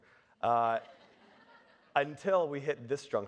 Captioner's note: audience laughing